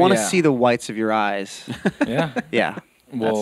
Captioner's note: laughs